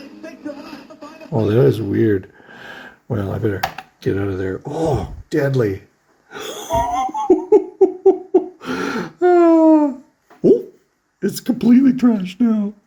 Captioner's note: laughs